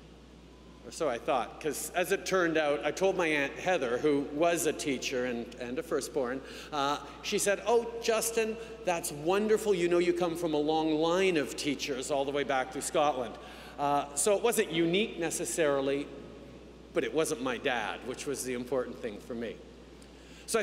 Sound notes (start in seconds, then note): none